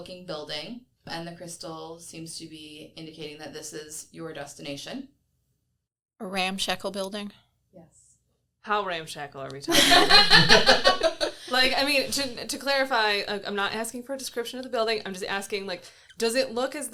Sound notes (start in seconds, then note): 9.7 everyone laughs